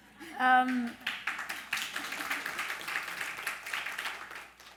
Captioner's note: audience applauds